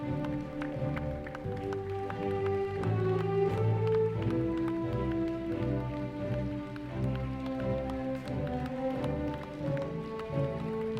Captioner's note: orchestra playing; applause